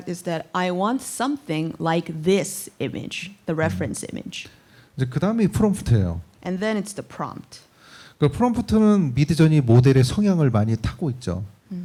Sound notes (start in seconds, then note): 4.9 speaking korean; 8.2 speaking korean